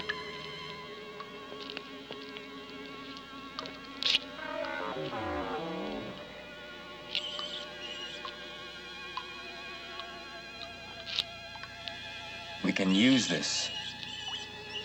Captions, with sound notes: (squeaking) We can use this.